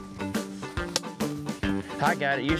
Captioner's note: whack